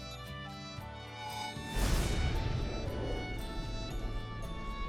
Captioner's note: magical whirring; light music